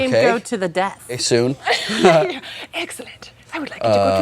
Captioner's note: laughs